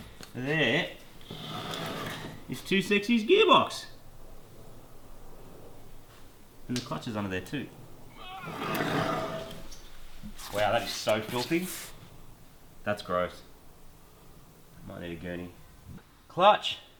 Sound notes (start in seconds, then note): 8.2 grunts